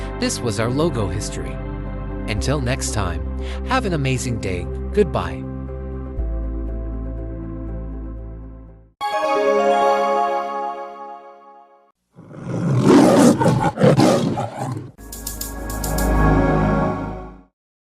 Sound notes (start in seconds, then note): 9.0 chimes plays; 12.2 Leo roars